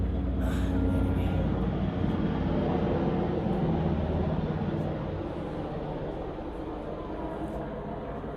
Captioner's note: helicopter passing